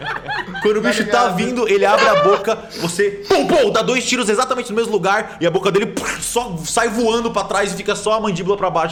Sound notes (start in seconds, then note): 1.9 pow pow